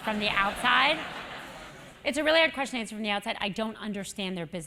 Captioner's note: laugh